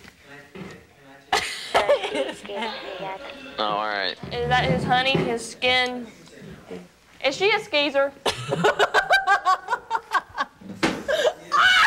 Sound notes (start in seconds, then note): 1.4 laughing; 8.2 laughing